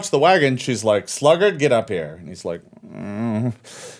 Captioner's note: groans